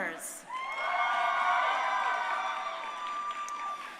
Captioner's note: crowd cheering